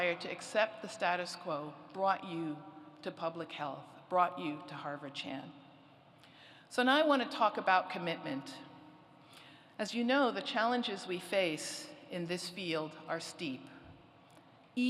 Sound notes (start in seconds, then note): none